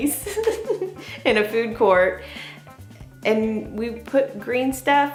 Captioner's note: laughing